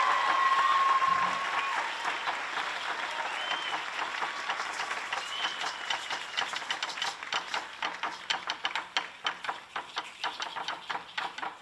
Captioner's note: applause